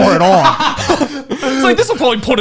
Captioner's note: laughing